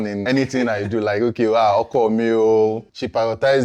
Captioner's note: laughs